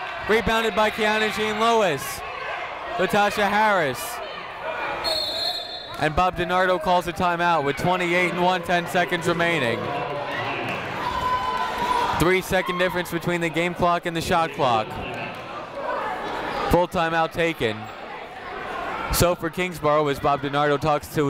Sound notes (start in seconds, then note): 5.0 whistle tweeting; 10.1 people shouting in the crowd